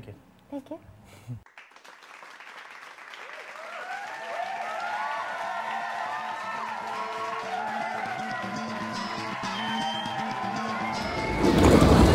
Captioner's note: applause